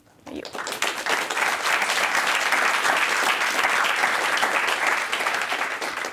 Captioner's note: applause